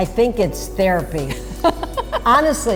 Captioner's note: laughs